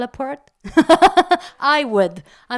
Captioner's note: laugh